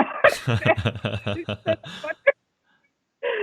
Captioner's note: laughing